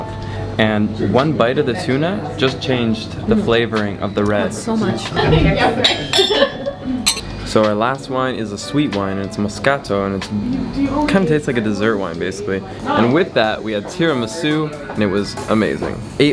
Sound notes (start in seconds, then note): 5.8 glasses clinking